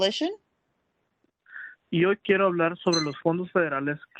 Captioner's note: speaking Spanish